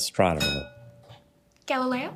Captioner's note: bell dings